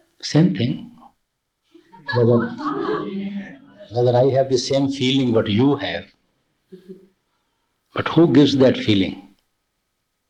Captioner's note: laughter